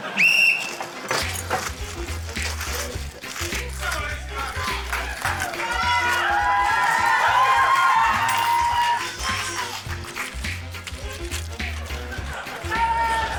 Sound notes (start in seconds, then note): 0.1 blows whistle; 2.4 quirky music; 3.8 audience members shout; 7.5 cheering